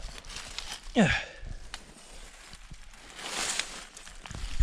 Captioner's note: grunts; leaves rustling